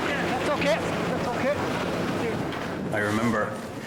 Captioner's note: waves crashing